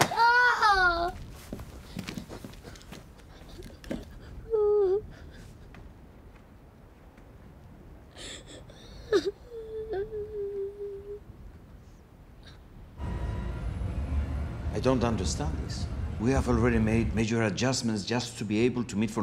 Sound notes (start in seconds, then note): 0.0 crying out; 3.3 crying